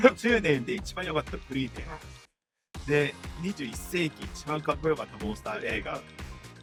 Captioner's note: laughing; translator speaking in Japanese